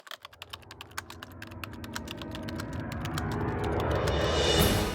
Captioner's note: typewriter sounds